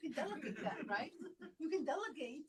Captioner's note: laughter